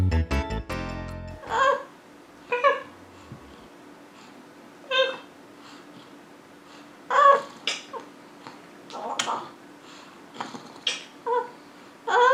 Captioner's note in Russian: гулит